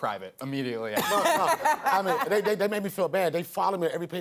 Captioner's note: laughs